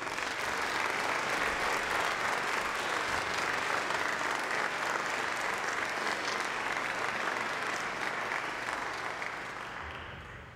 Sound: applause

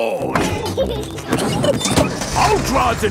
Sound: peppa and george laughing

